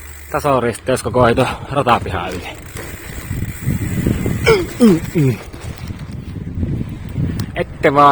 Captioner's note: bumping sounds